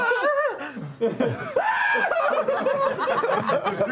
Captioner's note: screaming